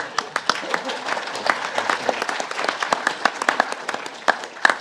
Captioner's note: audience laughing; audience applauding